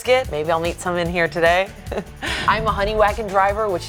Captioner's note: laughing